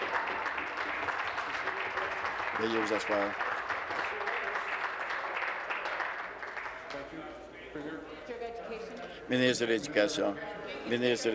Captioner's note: applause